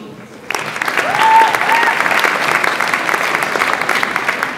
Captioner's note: audience applauds